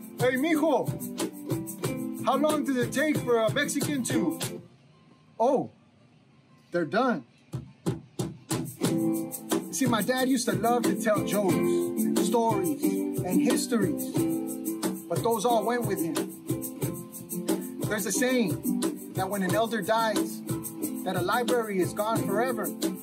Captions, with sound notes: "Hey mijo, how long does it take for a Mexican to... (music stops) "Oh, they're done!" (gentle guitar music) See, my dad used to love to tell jokes, stories, and histories. But those all went with him. There's a saying that when an elder dies, that a library is gone forever.